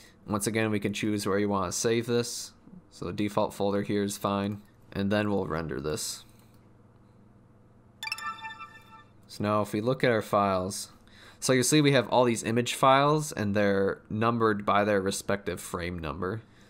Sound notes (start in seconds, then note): 8.0 ding ding ding